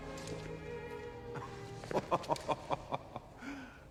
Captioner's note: Lacht bitter